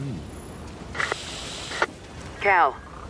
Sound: فرقعة ثابتة

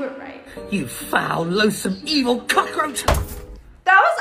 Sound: thump

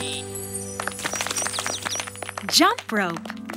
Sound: animals applauding

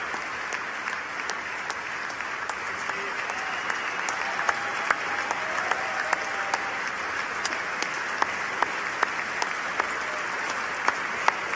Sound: applause

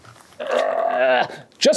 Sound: both grunting

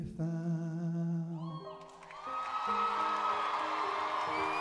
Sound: cheering

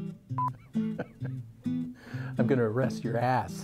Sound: laughing

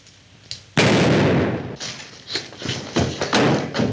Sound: gun fires

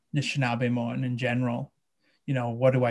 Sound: speaking in a foreign language

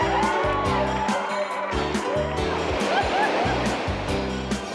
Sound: crowd cheering; water rushing; bells tinkling

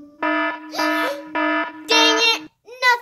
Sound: alarm sounding

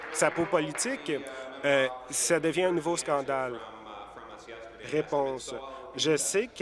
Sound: applause

